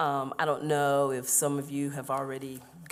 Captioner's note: none